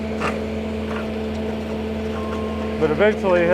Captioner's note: machine whirring